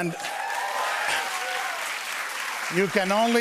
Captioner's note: cheers and applause